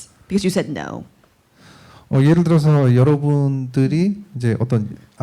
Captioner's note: speaking korean